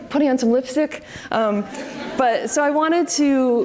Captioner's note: audience laughs